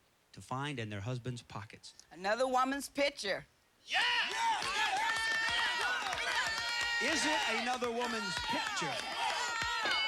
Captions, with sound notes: TO FIND IN THEIR HUSBAND'S POCKETS. ANOTHER WOMAN'S PICTURE. [cheers and applause] IS IT ANOTHER WOMAN'S PICTURE?